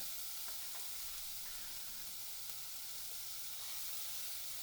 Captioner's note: onions and shallots sizzle